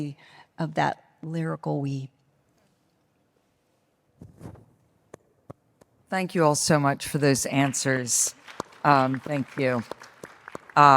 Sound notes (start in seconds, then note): 7.5 audience claps